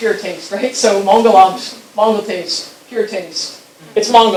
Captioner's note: speaking foreign language